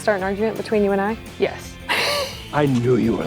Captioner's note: laughs